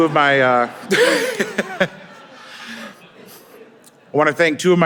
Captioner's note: laughing